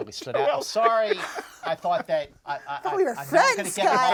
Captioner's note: laughs; stammers